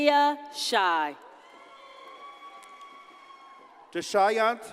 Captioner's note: audience cheers and applauds